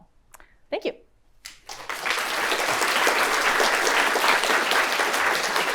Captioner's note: applause